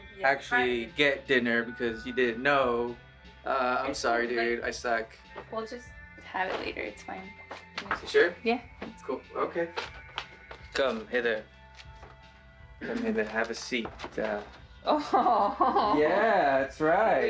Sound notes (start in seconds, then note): 7.4 she mumbles; 9.9 bag crinkles; 12.8 she clears her throat